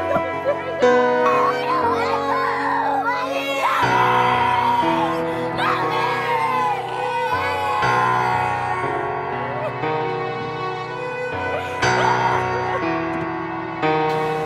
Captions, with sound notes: Please don't take em. (kids shouting and crying) (kids shouting and crying)